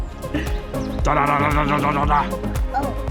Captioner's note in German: macht komische Geräusche